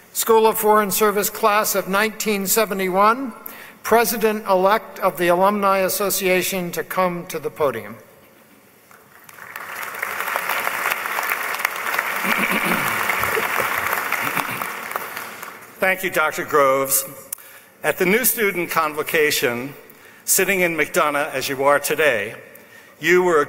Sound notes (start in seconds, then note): 8.8 applause